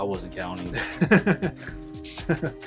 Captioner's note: laughter